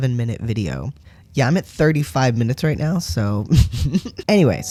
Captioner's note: laugh